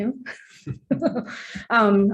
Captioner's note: laughter